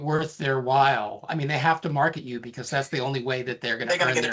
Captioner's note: laughing